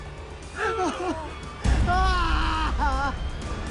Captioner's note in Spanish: Sollozos